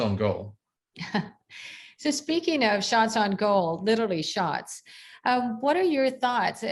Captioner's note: laughter